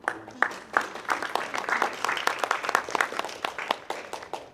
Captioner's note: audience clapping